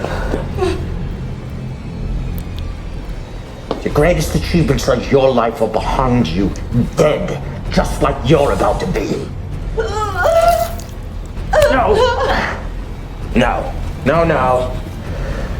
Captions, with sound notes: The greatest achievements of your life are behind you, dead, just like you're about to be. (Tina grunts) (flesh squelches) No! No. No, no.